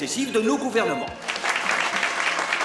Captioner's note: all applaud